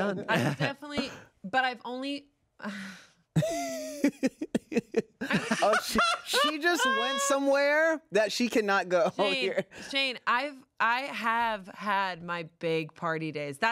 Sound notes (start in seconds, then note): 3.4 laughs; 6.0 everyone laughs